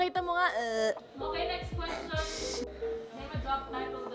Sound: laughs

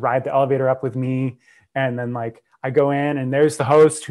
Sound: breath

